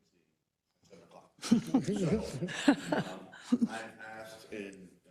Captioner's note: laugh